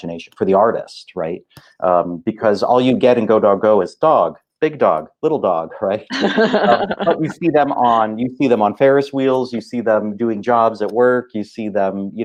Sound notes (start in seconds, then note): 6.1 laughing